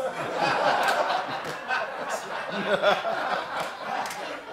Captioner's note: laughter